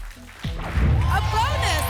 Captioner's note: boom